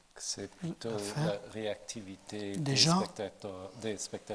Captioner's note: speaking in French